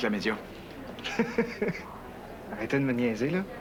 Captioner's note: Rire